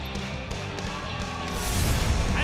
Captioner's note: cheers and applause